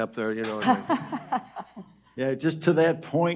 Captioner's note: audience laughs